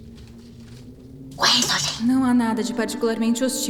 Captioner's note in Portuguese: sussurrando